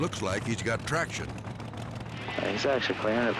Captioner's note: Jeep revving